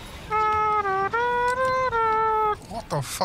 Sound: hums motif

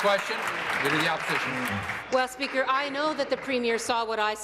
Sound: applause

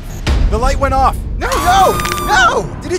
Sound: screams

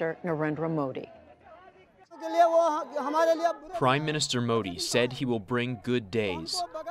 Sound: through translator

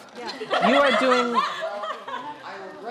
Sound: laughter

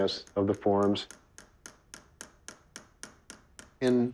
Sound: tapping

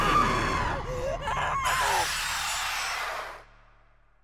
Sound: shrieking

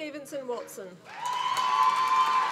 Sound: applause

